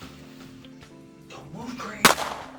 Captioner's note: gunshot